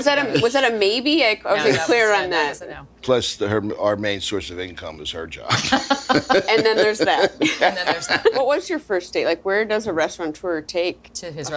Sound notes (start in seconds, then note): 5.5 laughs; 5.5 laughing